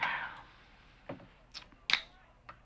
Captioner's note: can opening